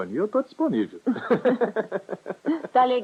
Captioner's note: laughter